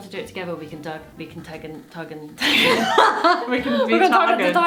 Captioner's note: laughing